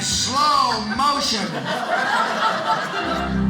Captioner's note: audience laughing